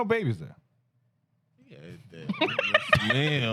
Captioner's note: laughter